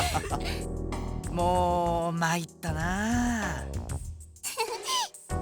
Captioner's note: laugh; sigh; chuckle